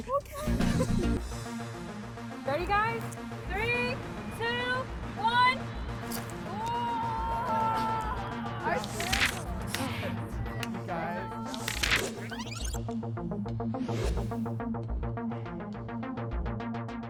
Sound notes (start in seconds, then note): 6.1 crew cheers; 8.9 crew members celebrate; 13.9 air whoosh